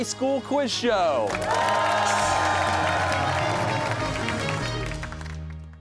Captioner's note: cheers and applause